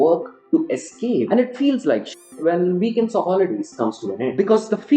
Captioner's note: beep